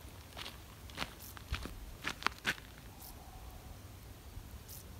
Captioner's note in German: Schritte hörbar